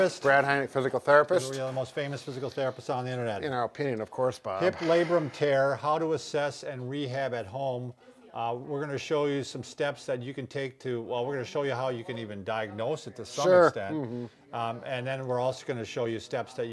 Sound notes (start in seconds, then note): 4.6 sighs